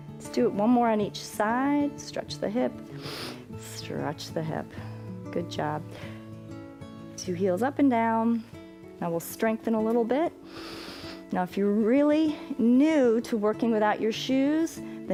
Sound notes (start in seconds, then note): 2.9 inhales